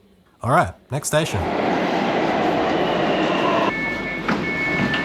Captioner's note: HCMT deceleration noises; door bleeping, opening